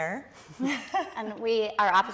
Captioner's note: participants laughing